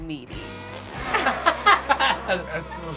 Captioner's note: laughing